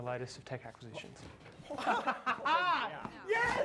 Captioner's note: riendo